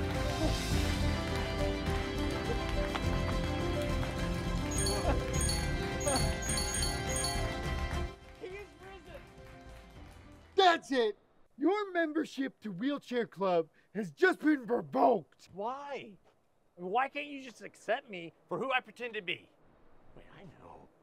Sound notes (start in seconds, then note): 0.6 applause; 4.7 app chimes